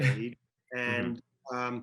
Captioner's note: laughs